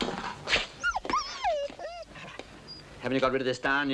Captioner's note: dog whimpers